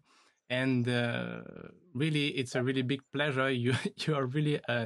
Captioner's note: chuckles